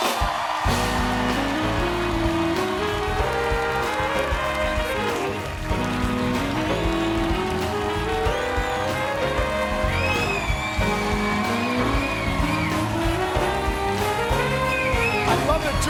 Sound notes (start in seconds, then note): 13.4 applause